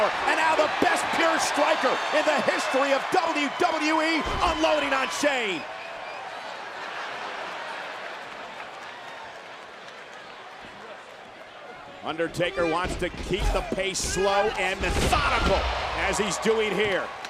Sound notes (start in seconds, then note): 5.7 applause